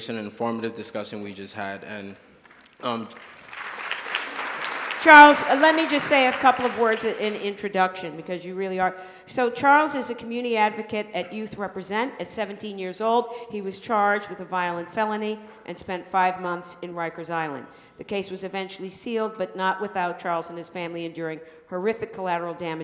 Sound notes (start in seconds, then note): 2.4 applause